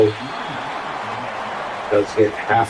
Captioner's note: crowd Noises